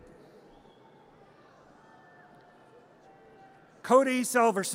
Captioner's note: audience cheers